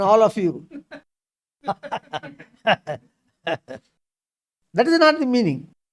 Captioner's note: laughs